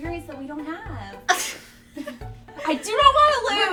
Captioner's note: laughs